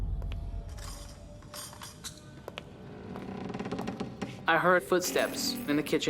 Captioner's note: footsteps